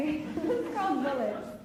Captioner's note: laughs